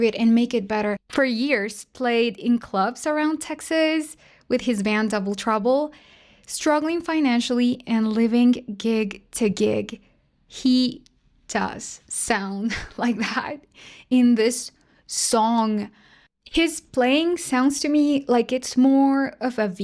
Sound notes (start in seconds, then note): 12.7 laughter